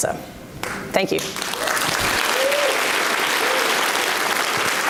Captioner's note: audience applauds